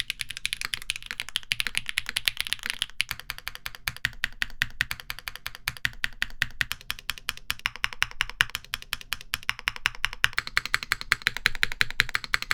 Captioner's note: keyboard clacking